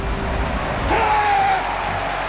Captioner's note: scream